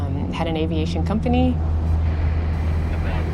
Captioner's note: rumble of engine